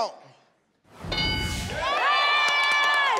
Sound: board dings; audience cheering

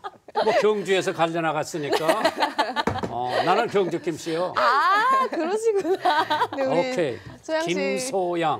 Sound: laughs; laughs

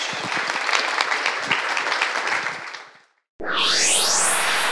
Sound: audience applauds

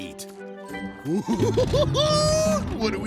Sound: laughing

